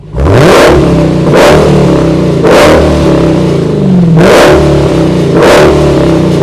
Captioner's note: revving engine